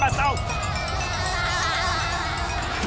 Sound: laughing

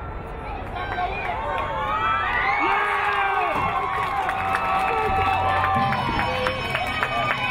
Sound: crowd cheering; crowd applauding

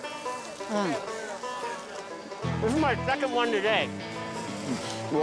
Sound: while chewing

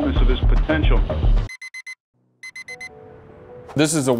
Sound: alarm beeps

